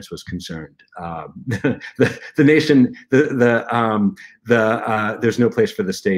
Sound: laughter

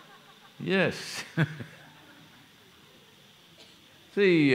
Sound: laughs

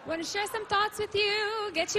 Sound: cheering and applause

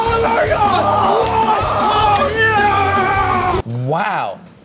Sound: both shouting

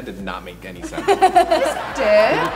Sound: audience laughs; laughing

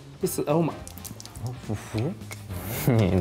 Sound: drink spilling

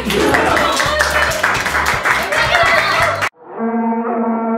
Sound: applause

